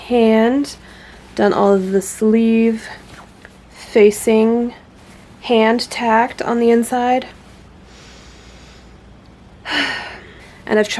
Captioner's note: sigh